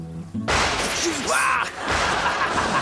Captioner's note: mellow guitar music; crash; laughs